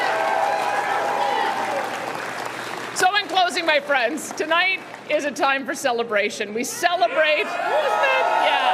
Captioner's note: cheering